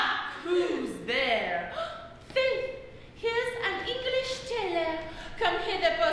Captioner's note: gasp